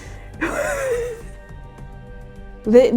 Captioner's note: nervous laughter